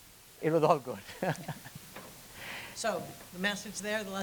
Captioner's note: chuckles